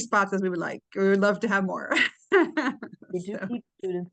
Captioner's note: laughs